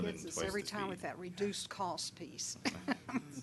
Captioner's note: laughing